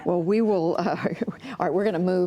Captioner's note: laughter